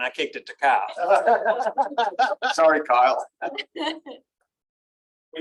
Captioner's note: laughter